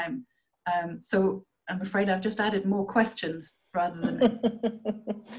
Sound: laughter

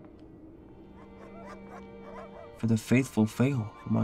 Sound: dogs barking

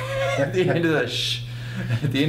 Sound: laughs; makes shushing sound

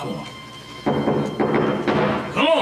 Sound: knocking

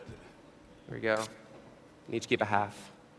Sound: rips

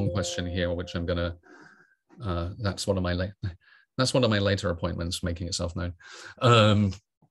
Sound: tone sounds

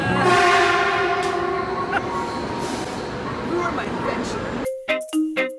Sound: train horn in the distance

